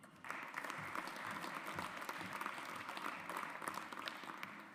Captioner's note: audience applauds